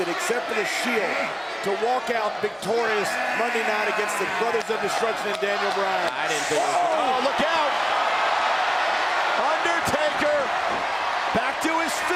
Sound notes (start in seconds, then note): 8.1 crowd shouting